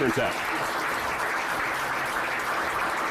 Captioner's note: applause